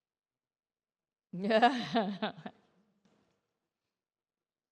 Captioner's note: laughs